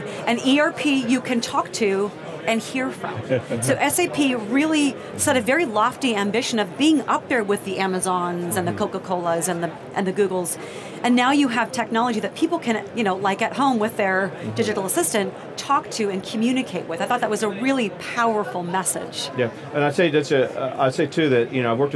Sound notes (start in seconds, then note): 3.1 laughing